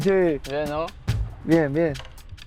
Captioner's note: both speaking Spanish